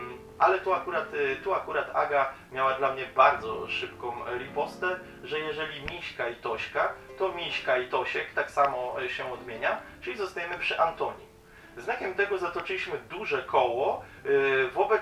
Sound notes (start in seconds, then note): 9.4 in polish